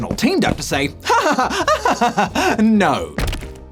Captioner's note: laughs